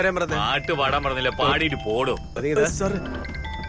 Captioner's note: Cell phone rings